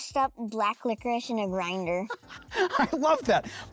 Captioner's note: laughs